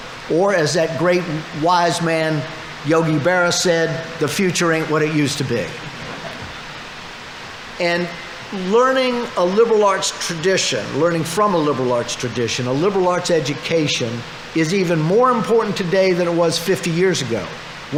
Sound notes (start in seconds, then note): 5.8 audience laughing